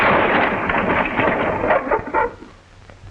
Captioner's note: barking